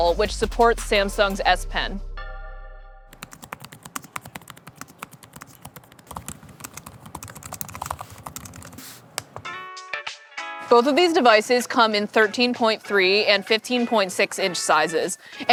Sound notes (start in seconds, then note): 3.1 keyboard clicking